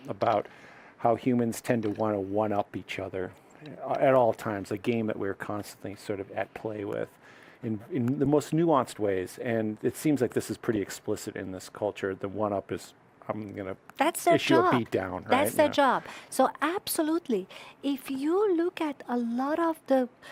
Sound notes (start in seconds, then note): none